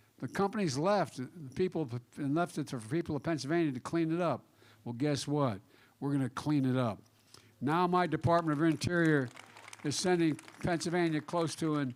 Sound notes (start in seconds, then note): 8.0 applause